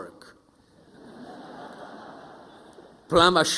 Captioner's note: audience chuckling